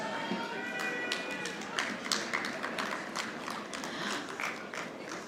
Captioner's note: audience clapping